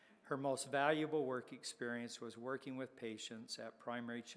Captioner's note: none